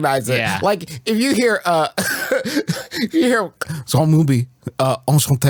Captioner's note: laughs